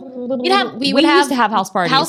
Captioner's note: making cooing sounds